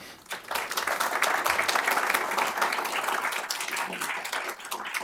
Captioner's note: applause